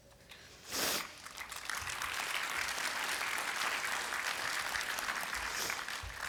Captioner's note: applause